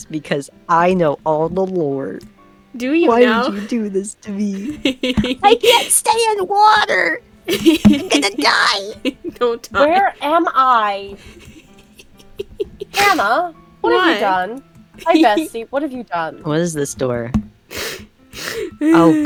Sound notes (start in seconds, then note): 4.6 giggles evilly; 7.4 continues to giggle; 11.1 giggles; 15.0 continues to giggle